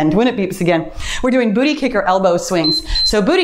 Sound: timer beeps

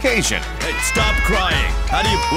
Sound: crying

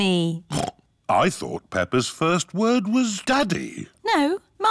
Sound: snorts

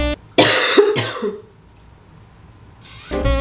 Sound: vlogger coughing; upbeat jazzy trumpet music

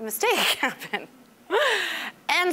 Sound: laughing

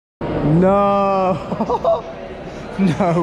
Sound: laughing

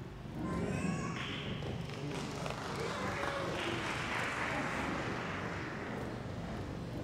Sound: applause

